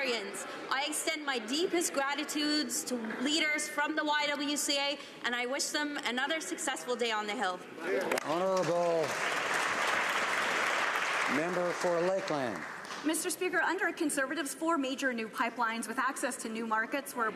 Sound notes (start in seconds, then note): 13.0 some Applause